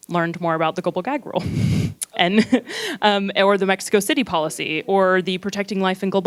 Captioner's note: chuckles